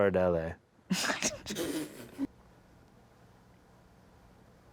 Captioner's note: laughs